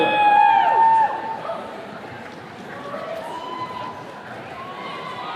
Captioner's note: attendees cheering